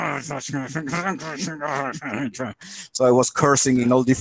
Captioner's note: grunts